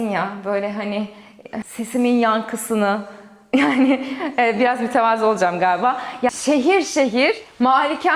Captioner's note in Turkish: kahkaha